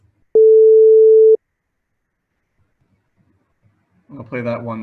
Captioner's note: sine wave beeping